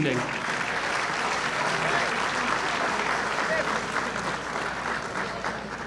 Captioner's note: applause